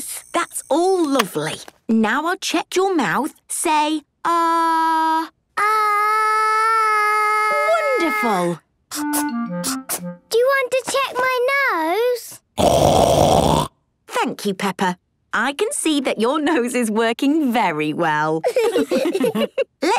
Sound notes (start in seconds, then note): 12.6 loud snort; 18.4 laughs